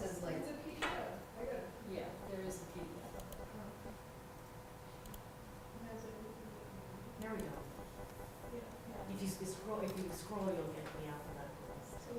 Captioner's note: background Discussion